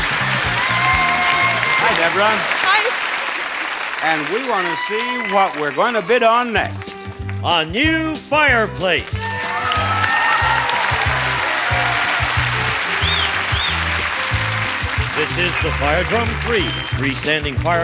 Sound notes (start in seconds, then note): 8.7 audience applauding; 8.7 light music